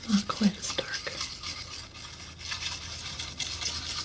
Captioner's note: scratching